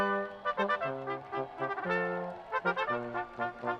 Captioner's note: people cheering